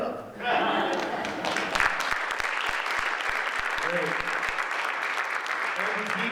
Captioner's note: audience laughing and applauding